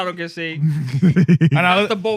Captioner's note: laughing